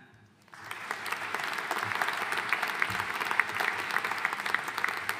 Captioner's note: audience applauding